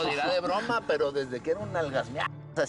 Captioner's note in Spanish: Risas